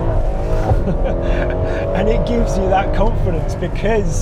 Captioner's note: laughs